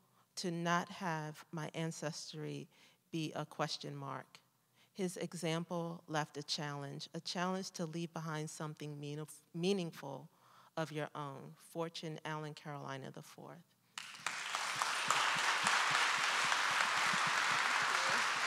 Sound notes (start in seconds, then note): 13.9 audience applauding